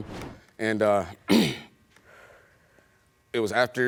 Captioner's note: clears throat